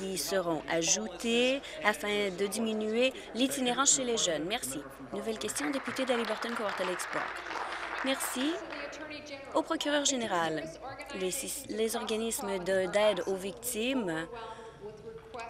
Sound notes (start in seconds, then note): 10.0 applause